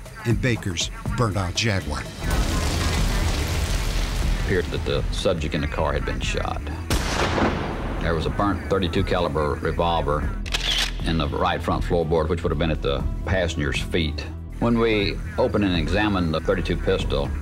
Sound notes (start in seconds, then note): 6.9 gunfire ringing